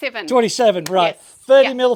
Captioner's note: claps